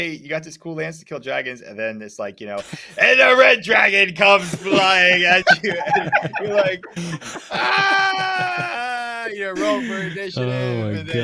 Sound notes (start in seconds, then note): 4.2 all laughing